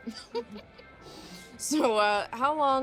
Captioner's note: Moe giggling